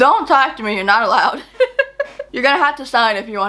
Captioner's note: laughs